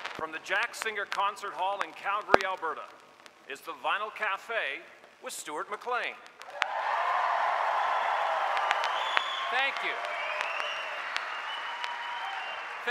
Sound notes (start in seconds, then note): 6.4 applause; 11.0 applause Cont